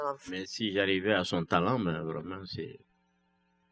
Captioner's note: speaking french